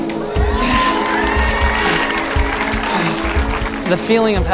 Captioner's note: audience cheering and applauding